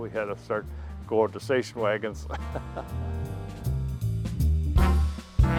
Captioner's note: chuckling